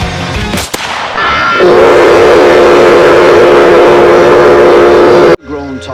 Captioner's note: casual screaming of hell